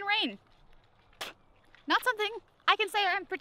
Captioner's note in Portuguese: cospe